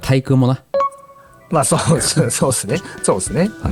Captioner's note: laughs